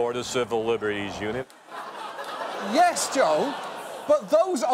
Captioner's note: audience laughing